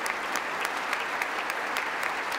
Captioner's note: applause